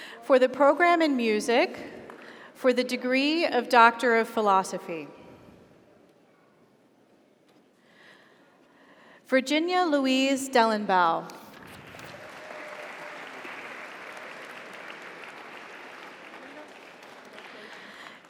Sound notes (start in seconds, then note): 11.6 audience applauds; 12.0 audience cheers